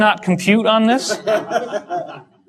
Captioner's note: audience laughter